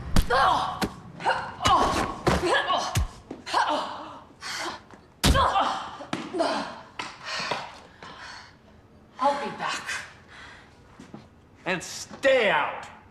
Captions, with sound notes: (Riley grunting) (Frenchie grunting) I'll be back. - And stay out!